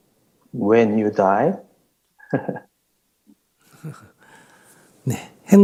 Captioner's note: questioner Laughter